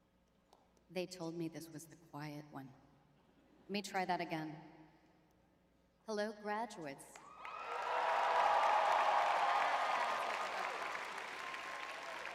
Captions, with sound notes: They told me this was the quiet one. Let me try that again. Hello, graduates. [cheers] [applause]